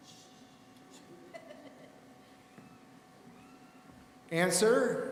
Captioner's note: laughing